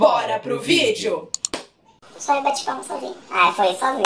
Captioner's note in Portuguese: voz modificada p/tom engraçado